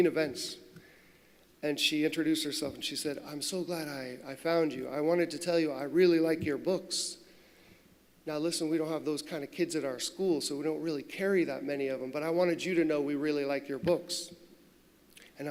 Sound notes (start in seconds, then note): none